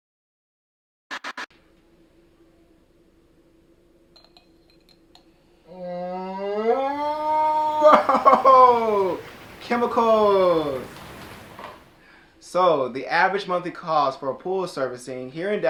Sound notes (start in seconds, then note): 4.1 glass clinking